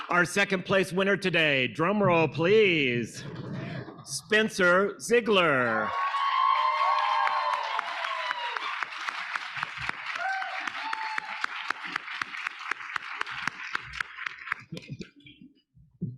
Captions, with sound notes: Our second place winner today, drum roll please. Spencer Zeigler. (audience cheering) (audience applauding)